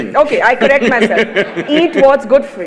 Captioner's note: laughs; Sadhguru laughs